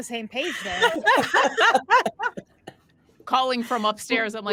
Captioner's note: cast members laughing